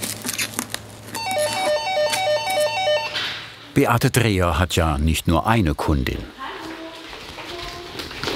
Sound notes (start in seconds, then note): 1.1 doorbell